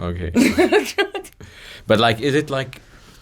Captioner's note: laughs